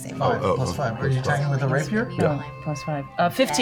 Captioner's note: none